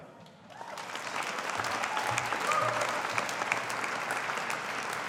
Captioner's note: audience applauding